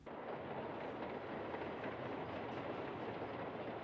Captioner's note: subway rattling